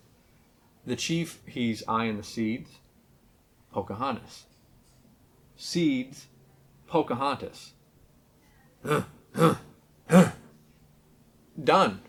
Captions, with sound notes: the Chief he's eyeing the seeds Pocahontas. Seeds. Pocahontas. (grunts) (grunts) (grunts) Done.